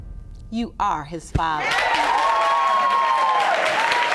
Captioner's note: audience cheering